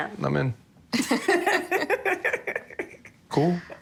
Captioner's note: laughter